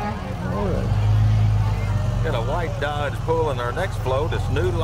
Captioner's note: horn honks